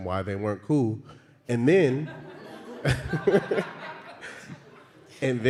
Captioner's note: laughter